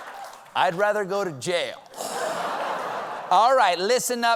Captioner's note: laughter